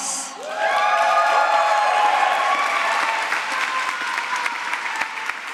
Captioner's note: applause